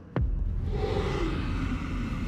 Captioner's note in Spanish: gruñido